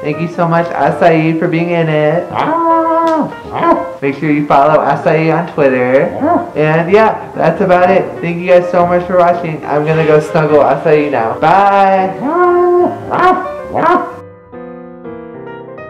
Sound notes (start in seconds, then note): 2.3 howling; 12.2 barks